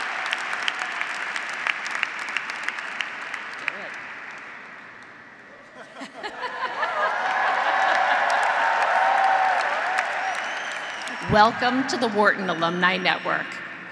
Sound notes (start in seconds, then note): 0.0 audience applauding; 0.0 audience cheering; 5.7 laughs; 8.2 audience applauding; 8.2 audience cheering